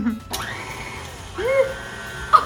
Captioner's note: light chuckling; mixer whirring; giggling